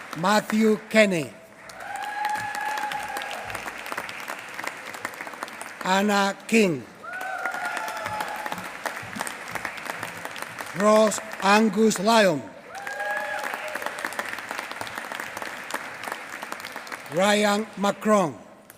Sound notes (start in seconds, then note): 1.5 applause; 7.0 applause; 12.7 applause; 18.6 applause